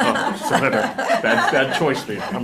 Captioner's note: everyone laughing